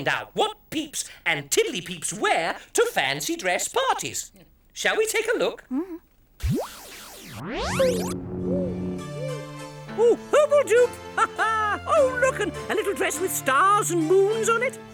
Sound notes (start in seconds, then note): 6.4 zapping sound; 8.8 upbeat music